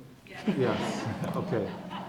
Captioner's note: laugh